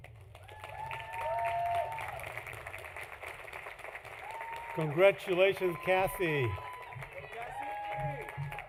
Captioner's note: applause